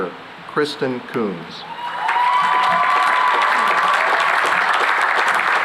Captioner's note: cheering and applause